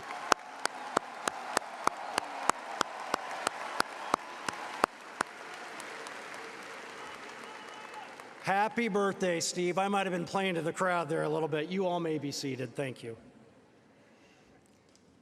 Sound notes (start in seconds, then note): 2.7 applause